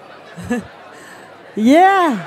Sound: laughs

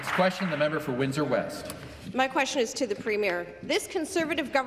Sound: some Applause

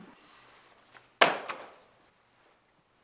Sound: notebook HITS ground

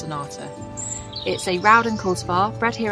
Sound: birds chirping

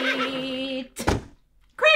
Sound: thud

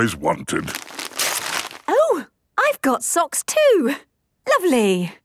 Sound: tearing

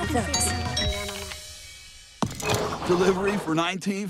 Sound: doorbell rings

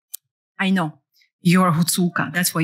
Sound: non-english

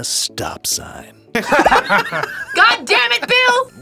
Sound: both laugh

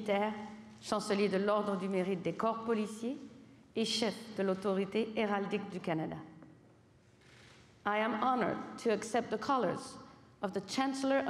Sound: speaking French

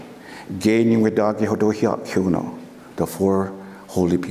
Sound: foreign speaking

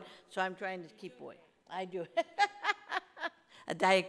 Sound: laughing

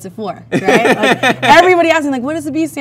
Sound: man laughs

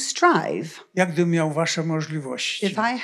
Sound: foreign language

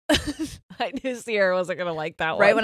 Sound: both laughing

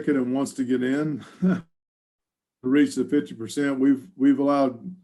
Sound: laughs

